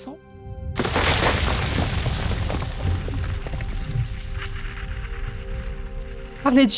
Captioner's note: distant explosion